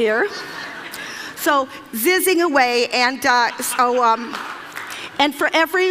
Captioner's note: Laughter; 笑聲; Laughter; 笑聲